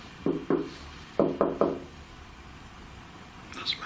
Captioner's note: knocking